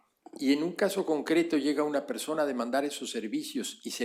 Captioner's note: spanish